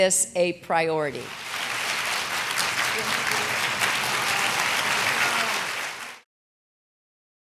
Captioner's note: applause